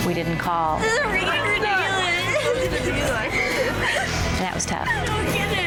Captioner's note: girls crying